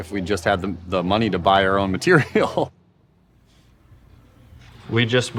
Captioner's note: laughs